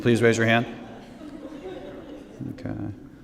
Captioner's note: laughter